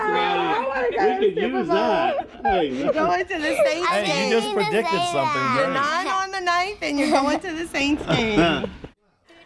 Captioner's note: laughter